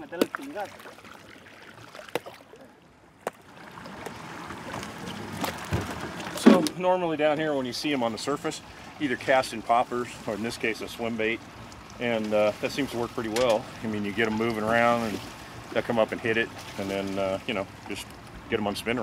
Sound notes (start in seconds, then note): 0.1 thunk, thunk, thunk; 4.2 thud